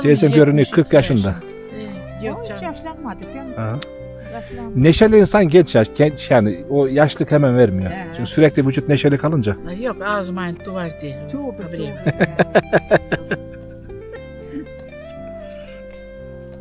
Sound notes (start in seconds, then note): 6.6 cheerful; 12.0 laughter